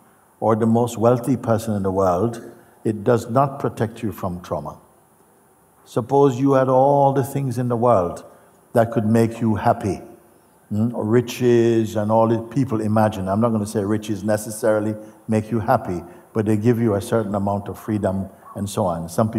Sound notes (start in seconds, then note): none